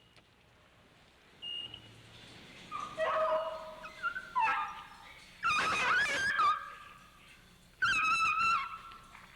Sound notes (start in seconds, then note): 2.5 dog whining